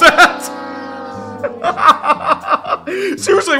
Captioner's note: maniacal laugh